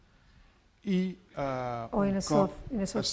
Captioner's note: speaking spanish